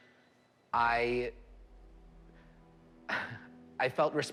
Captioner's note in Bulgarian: присмива се